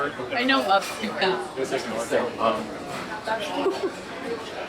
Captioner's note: people chattering